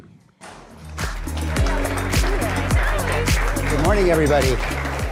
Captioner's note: upbeat music; audience applause